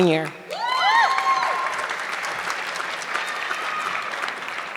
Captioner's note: audience clapping